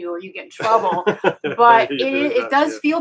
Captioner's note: laughing